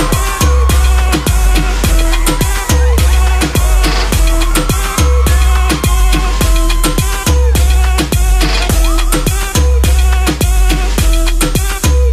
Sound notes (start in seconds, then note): 0.2 electronic instrumental; 5.1 screaming; 8.4 electronic instrumental